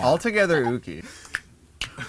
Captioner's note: snap snap